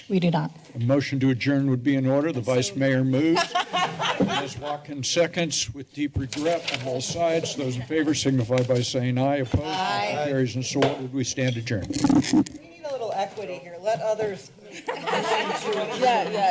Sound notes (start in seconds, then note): 3.2 laughter; 14.7 laughter